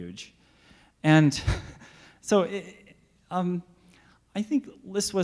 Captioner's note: laughs